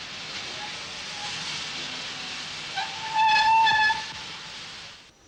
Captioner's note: train arrives